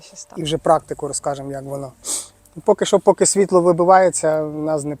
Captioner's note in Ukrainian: сопіння